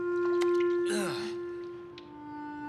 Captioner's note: Bobby groans